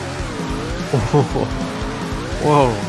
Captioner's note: laugh.sfx